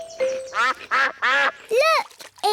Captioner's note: quacking